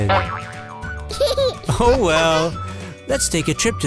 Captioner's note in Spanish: Risa de bebé